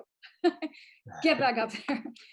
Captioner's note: laughs